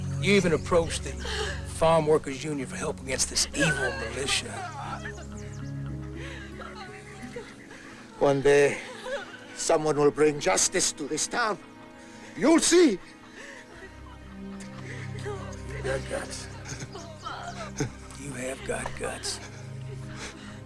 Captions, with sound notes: You even approached the Farm Worker's Union for help against this evil militia. - One day, someone will bring justice to this town, you'll see. (women crying) - You got guts. You have got guts.